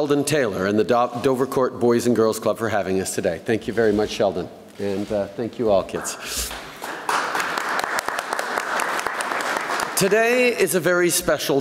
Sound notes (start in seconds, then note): 8.9 applause